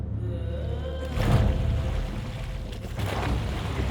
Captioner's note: oars splashing